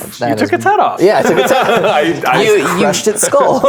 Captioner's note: players laughing